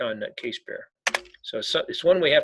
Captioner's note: keyboard clicking